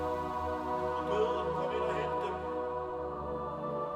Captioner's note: speaking foreign language; soft music